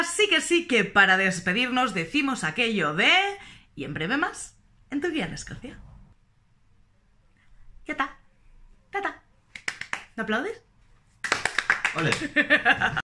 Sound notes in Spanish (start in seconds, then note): 8.5 aplausos; 12.0 risas